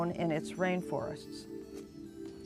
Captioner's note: whispering